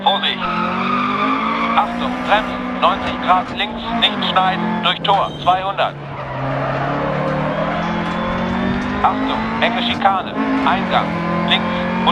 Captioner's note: engine sounds and co-pilot's instructions